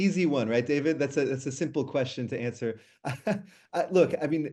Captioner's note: chuckles